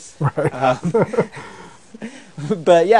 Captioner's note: laughing